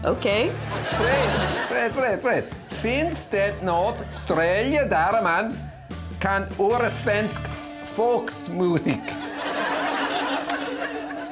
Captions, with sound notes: -Okay. -Fred. Fred, Fred, Fred. [speaking Swedish]